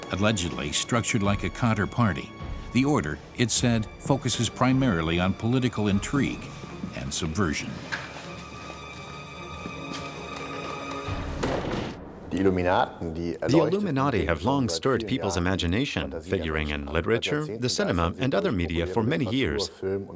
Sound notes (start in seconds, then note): 7.8 suspenseful music; 12.2 speaking in German